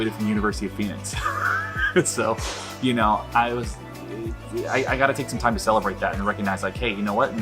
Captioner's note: laughs